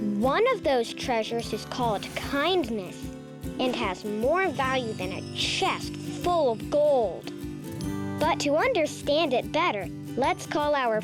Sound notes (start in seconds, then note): 4.3 treasures tinkling